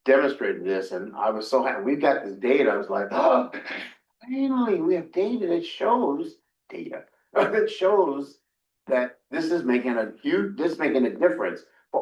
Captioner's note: gasp